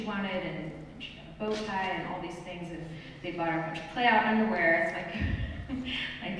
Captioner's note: laughs